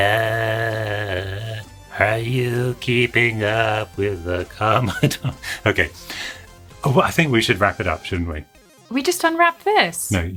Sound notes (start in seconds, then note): 4.8 murmurs